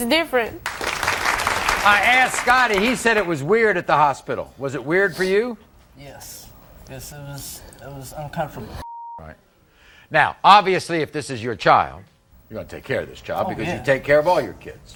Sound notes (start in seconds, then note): 0.6 audience applauding